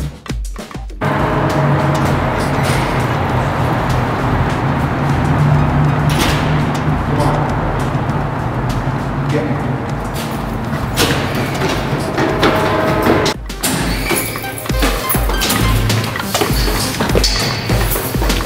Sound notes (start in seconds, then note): 1.0 door opens and closes; 11.8 running foot steps